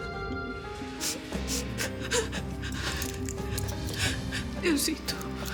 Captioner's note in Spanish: Sollozos